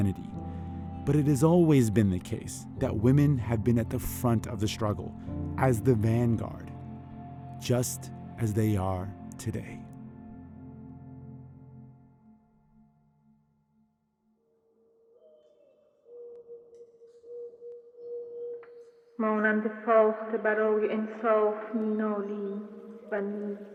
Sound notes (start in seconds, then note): 10.6 soundbite of archived recording; 16.6 non-English language spoken